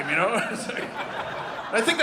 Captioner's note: audience laughing